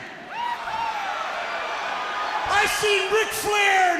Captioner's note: crowd chatter